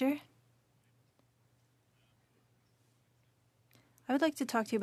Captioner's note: speaking French